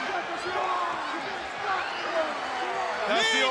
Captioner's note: crowd chatter